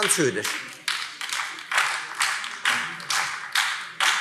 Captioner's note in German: Beifall Freie Demokraten und BÜNDNIS 90/DIE GRÜNEN